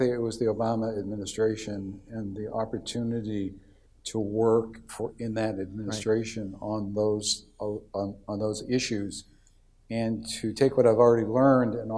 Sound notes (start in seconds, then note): none